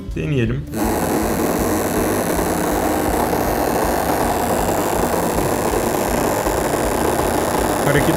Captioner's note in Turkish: Elektrikli motor sesi